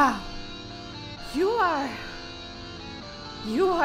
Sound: sighs

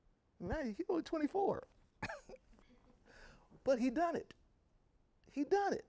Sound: chuckling

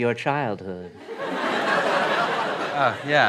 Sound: laughter

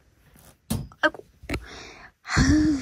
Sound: thud

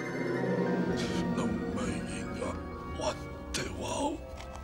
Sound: non-english speech

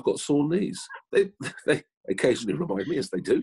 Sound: laughing

